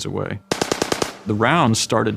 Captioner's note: gun banging